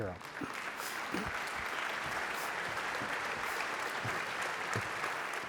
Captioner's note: audience applauding